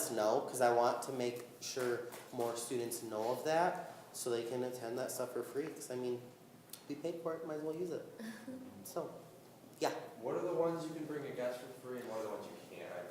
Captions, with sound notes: cause I want to make sure more students know of that so they can attend the stuff for free. Cause I mean, we paid for it, might as well use it. (laughing) So yeah. >> What are the ones you can bring a guest for free